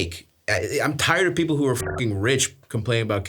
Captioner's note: beeps